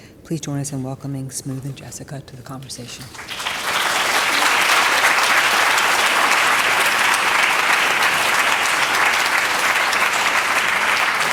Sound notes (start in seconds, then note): 3.6 applause